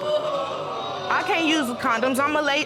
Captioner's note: audience exclaiming